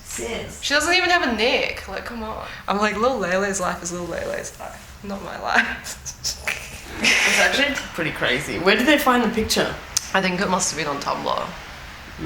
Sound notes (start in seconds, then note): 5.2 laughs